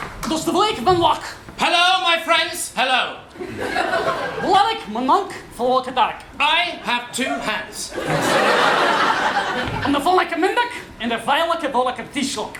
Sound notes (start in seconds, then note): 0.2 speaking Czech gibberish; 4.4 more Czech gibberish